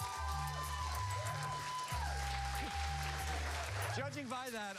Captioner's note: cheers and applause